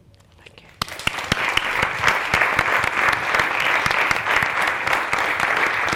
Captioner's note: audience applauds